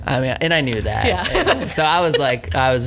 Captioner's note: laughs